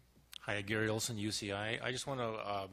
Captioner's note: voiceover